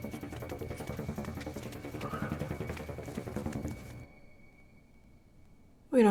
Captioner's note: suspenseful music continues; footsteps thumping